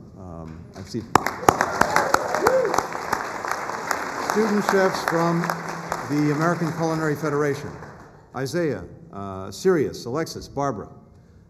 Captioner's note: applause